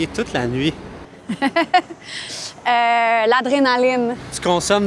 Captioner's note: laughs